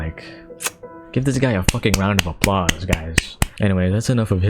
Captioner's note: clap clap clap get applauded